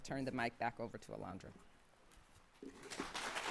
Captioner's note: applause